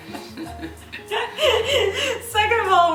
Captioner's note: laughing